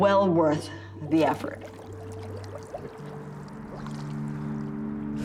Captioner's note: water burbling